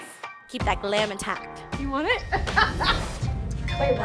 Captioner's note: laughs